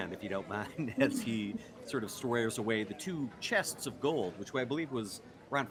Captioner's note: laughs